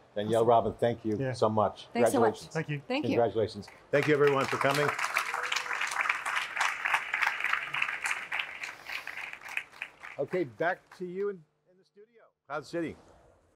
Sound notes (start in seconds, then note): 3.7 crowd applauding; 4.2 people whooping